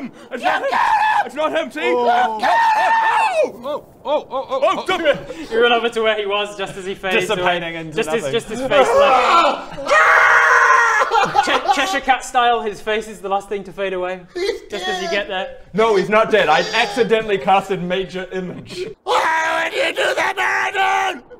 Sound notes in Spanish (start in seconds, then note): 11.1 lloriqueo